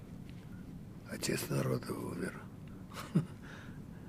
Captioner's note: laughing